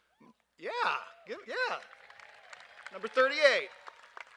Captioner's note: cheers and applause